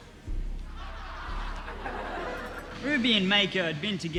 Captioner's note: audience laughing